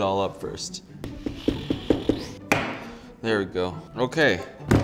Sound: knife thudding

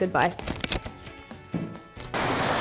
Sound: paper crinkles; rocket blasts

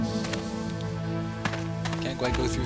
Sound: gunshots

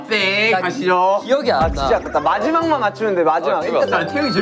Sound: frustrated

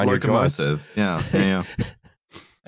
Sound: laughs

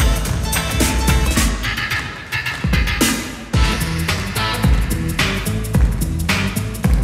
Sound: funky dance music; audience clapping

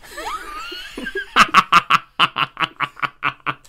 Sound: deep Witches Cackle

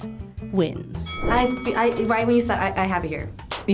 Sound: bell dings

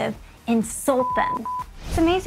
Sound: beeping

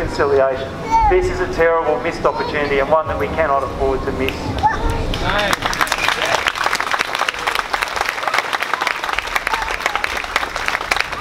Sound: clapping

